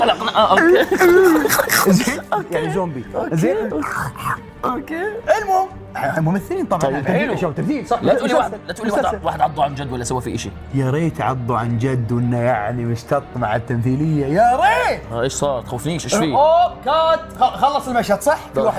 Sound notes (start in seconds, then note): 0.0 laughs; 3.5 snarls